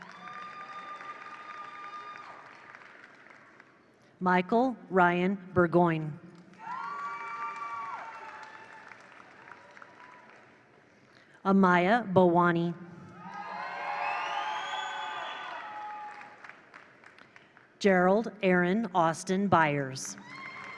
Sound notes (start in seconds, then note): 0.0 attendees cheer; 0.0 attendees applaud; 6.4 attendees applaud; 6.5 attendees cheer; 13.1 attendees cheer; 13.2 attendees applaud; 20.2 attendees cheer; 20.2 attendees applaud